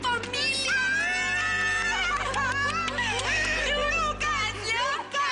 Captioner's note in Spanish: Gritos y exclamaciones